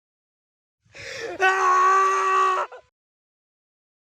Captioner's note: screams